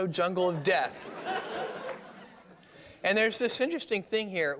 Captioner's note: laughter